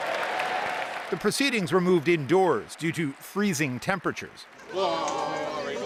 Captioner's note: applause